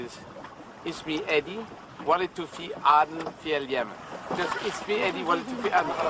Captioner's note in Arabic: إدي التحدث بلغة أجنبية